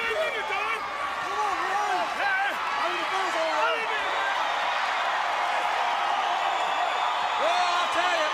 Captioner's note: crowd chatter; crowd cheering